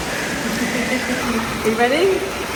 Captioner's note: laughs